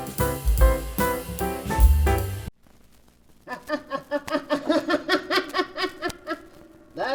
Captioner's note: laughing